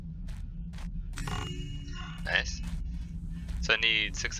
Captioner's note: joyful chime